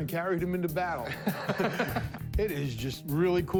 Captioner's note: laughter